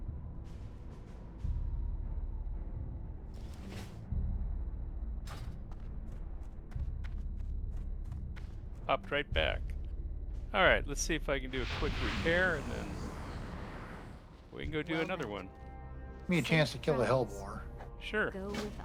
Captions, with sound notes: (thudding) Hopped right back. All right, let's see if I can do a quick repair and then we can go do another one. Give me a chance to kill the hellboard. Sure.